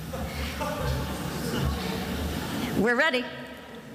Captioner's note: attendees laughing